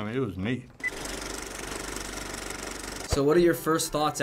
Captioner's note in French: clics de bobine de film